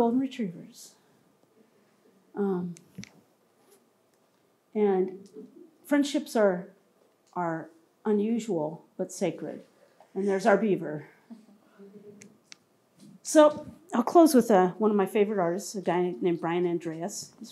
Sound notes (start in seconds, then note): none